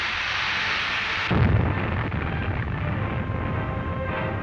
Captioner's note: explosion